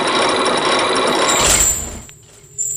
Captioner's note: chains grinding!; lock clacks!